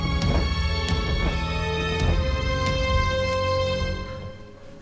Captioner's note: feathers flap